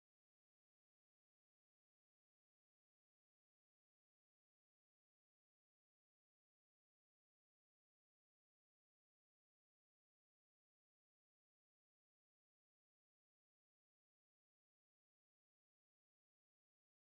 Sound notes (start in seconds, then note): none